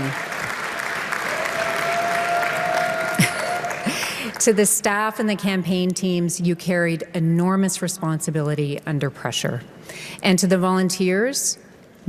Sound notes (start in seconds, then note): 0.0 applause